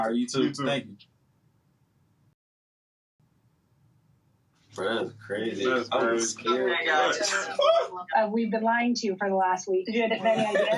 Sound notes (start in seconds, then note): 4.8 indistinct chatter; 10.0 laughter